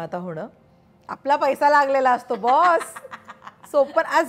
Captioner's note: Laughs